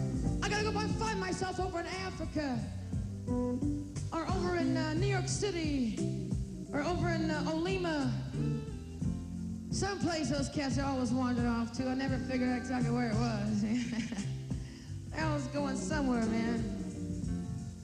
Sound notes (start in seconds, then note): 13.8 chuckles